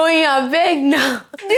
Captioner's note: laughs